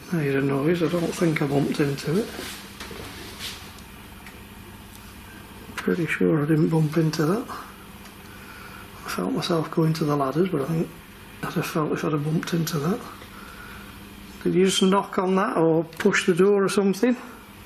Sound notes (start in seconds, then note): none